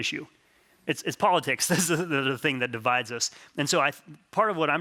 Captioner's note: laughs